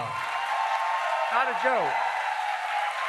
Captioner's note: applause